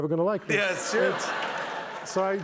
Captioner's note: laughter